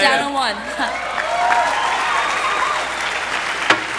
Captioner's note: cheering, applause